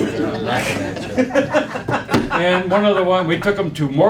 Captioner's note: laughing